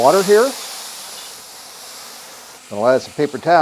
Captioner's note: water sizzles